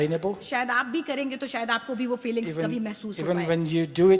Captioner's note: speaks foreign language